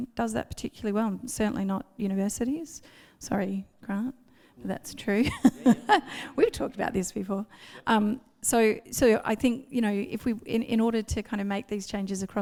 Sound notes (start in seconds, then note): 5.3 laughs